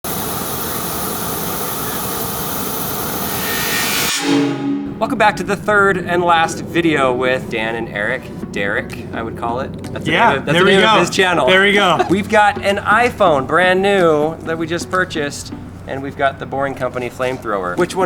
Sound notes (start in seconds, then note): 0.1 flames roaring; 4.4 string music